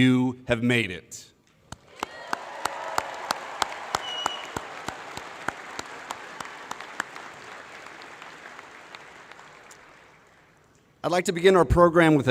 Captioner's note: applause